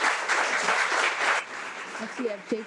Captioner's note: audience applauding